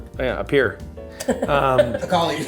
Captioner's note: laughs